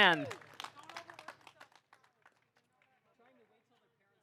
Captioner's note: audience applauding